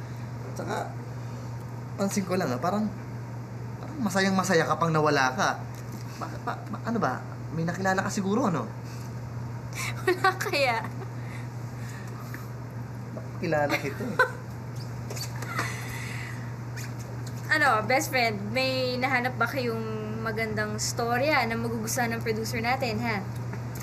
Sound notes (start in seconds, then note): 9.8 chuckles; 15.1 laughs